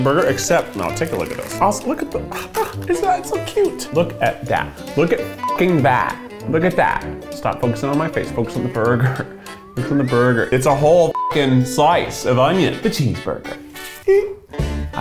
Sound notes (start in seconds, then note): 5.4 beeps; 11.1 beeps